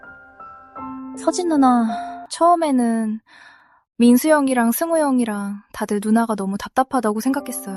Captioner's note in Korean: 헉 소리